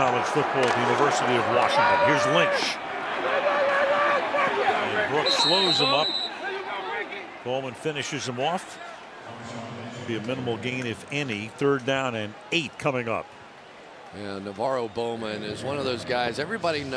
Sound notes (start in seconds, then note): 7.0 whistle